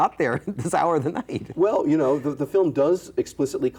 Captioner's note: chuckles; chuckles